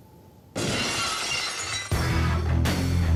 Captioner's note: glass shatters